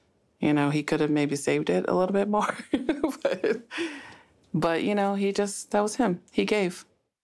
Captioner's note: laugh